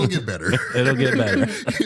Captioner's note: laughter